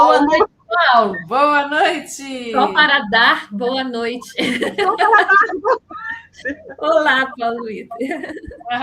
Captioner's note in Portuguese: risadas